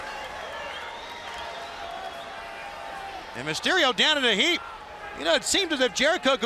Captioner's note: crowd chatter